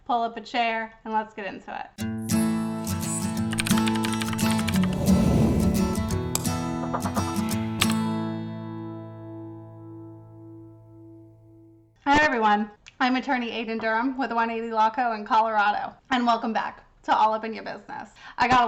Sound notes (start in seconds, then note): 2.0 soft guitar music; 3.6 typing